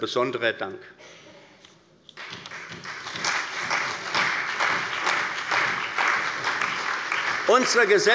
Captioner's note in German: Beifall bei der CDU und dem BÜNDNIS 90/DIE GRÜNEN